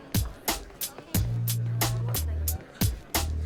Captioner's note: people chattering